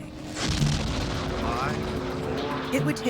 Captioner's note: engine ignites loudly